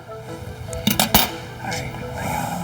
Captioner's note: trimmer dropping